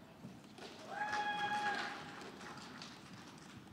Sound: scattered applause

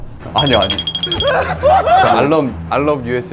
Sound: laughing hard

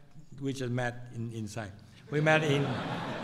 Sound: laughter

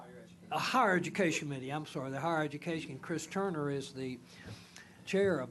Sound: speaking off the mic

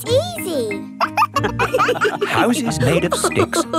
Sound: wolves laughing

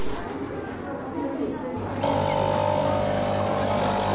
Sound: static; whirring

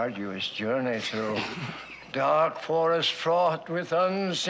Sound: both snickering

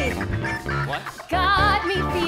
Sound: speaking

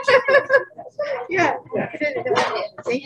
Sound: group chatting

